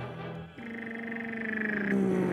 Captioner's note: groans